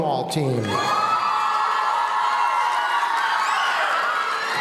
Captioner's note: audience cheering